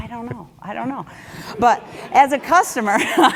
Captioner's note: laugh